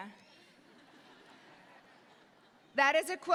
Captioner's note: audience laughs